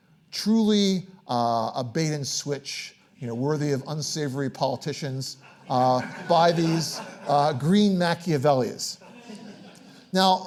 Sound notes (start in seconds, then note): 5.4 audience laughing